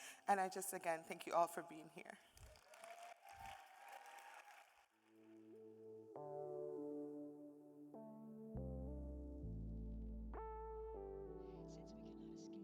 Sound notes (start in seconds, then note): 2.3 audience cheering and applauding; 7.4 soft music